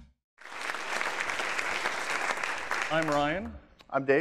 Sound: applause

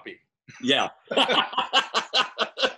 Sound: laughs

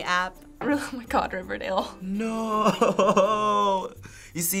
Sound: chuckles

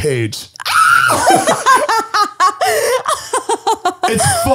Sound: screams

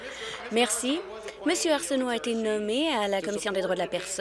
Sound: applause

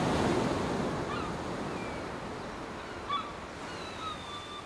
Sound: gulls crying

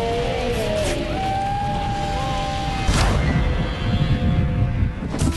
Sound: screams

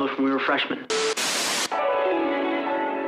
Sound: video buzzing; wondrous music

